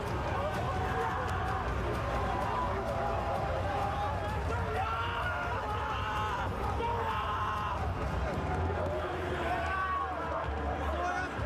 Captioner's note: screaming; cheering